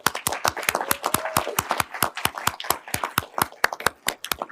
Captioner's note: everyone applauding